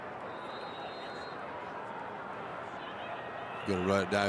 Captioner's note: referee blows whistle